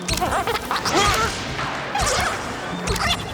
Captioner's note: squeaking